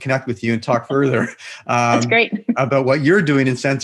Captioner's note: laughs